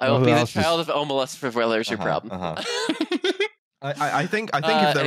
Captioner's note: laughs